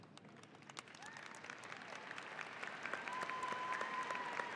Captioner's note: audience applauding